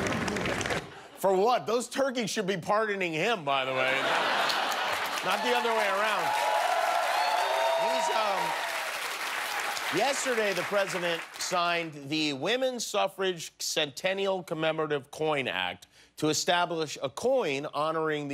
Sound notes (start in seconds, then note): 2.8 applause; 10.8 cheers and applause